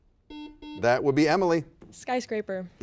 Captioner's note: buzzer beeps